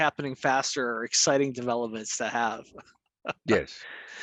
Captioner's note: chuckles